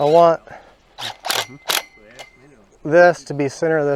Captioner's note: drill buzzes